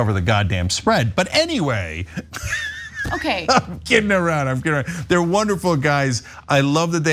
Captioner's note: laugh